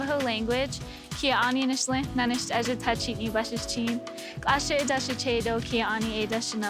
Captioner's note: speaks in the Navajo language